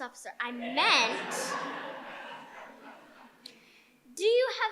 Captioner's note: audience laughing